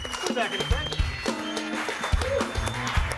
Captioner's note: audience applauding; upbeat music continues